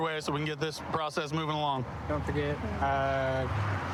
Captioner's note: none